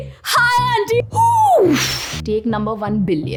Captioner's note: exhales loudly